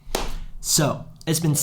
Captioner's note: claps